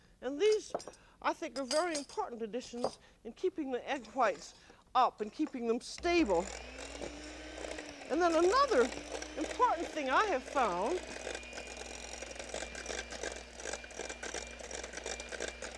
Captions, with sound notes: And these, I think, are very important additions in keeping the egg whites up and keeping them stable. And then another important thing I have found... [ Mixer whirring ]